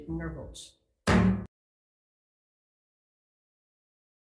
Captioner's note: gavel bang